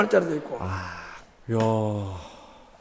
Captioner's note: gasps